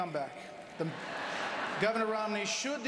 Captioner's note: laughter